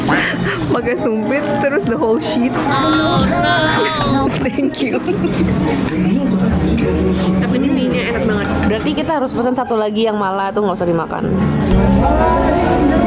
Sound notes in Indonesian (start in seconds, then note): 0.2 Ketawa; 4.3 Ketawa